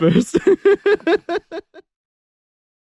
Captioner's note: laughs